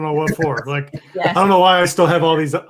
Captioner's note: laughing